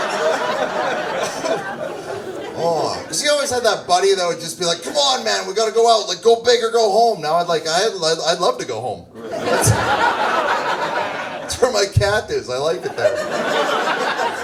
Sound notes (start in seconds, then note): 9.2 laughs; 12.5 audience laughs